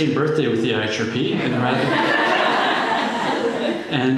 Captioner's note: laughter